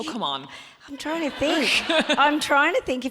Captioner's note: audience laughs